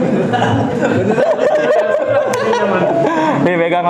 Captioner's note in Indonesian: Laugh